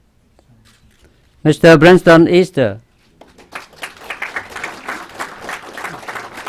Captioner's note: clapping